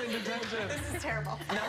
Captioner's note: cheers and applause